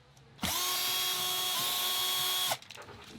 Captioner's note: drilling